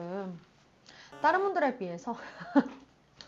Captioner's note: ugh